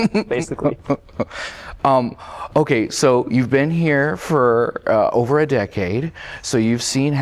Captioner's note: laughter